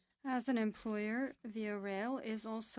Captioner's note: speaking French